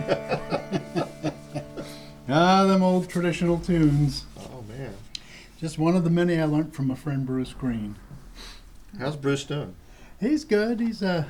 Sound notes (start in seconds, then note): 0.0 laughter